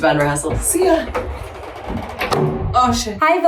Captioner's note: door thudding